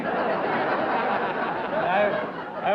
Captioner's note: laughter